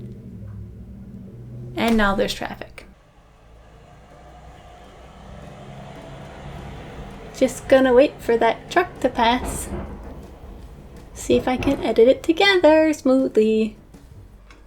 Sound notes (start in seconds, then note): 0.3 traffic commences; 2.9 truck loudly passing by the window; 7.5 singsong voice